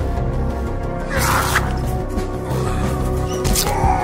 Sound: fabric rips; men grunting

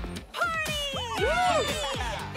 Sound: all cheer

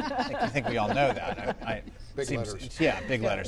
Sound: laughter

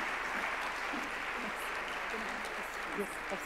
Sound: murmuring

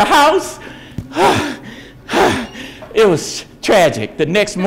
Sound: exhaling frantically

